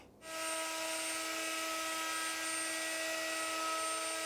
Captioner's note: machine whirring